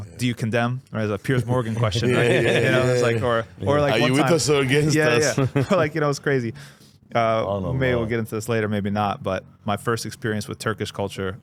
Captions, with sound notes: do you condemn or as a Piers Morgan question? (laughing) Are you with us or against us? Like, you know, it's crazy. Maybe we'll get into this later, maybe not. But my first experience with Turkish culture,